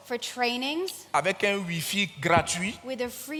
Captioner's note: continues in French